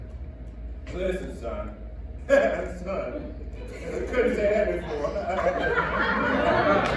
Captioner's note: laughs